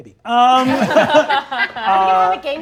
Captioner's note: all laughing